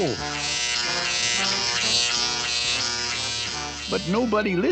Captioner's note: WHlRRING